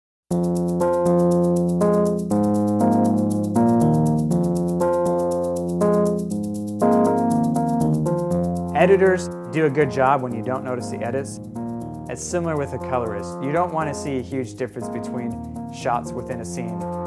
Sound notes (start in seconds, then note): 0.0 jazz music; 8.1 voiceover